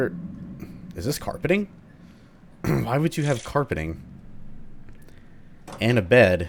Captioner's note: clears throat